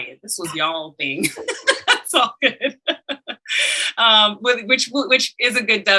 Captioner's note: panelists laughing